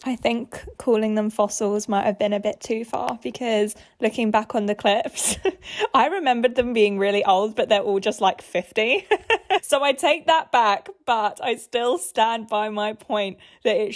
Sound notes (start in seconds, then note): 9.0 laughs